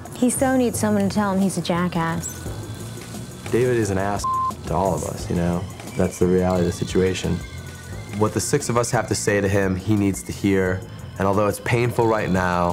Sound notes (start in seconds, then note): 4.2 beep